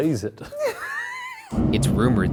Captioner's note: laughing